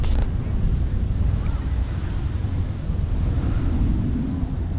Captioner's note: wind blowing